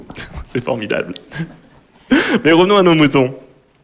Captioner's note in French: Rires